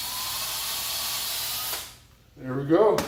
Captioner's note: drills